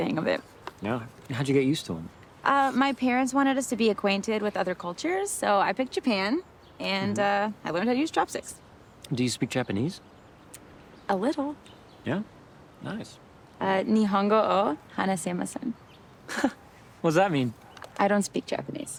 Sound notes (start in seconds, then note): 13.8 Zoe speaking in foreign language